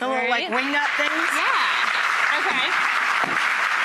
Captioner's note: audience applauds